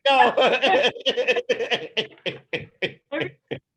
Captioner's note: laughing